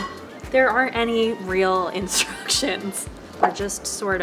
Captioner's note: laughs